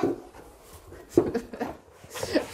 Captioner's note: she laughs